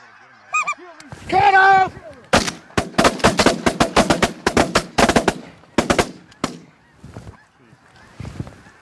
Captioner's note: gunshots